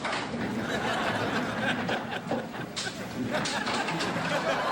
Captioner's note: audience laughs